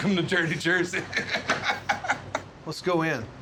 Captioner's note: laughter